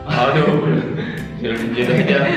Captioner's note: laugh